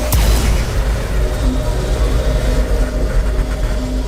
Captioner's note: electrical humming